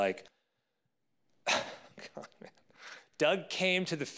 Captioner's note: laughs